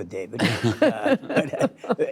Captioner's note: laughter